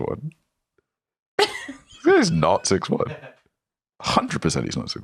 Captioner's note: laugh